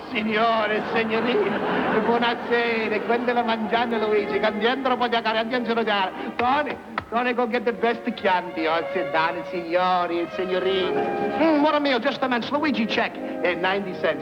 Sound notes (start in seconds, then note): 3.4 speaking Italian